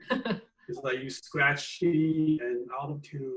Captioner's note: laughs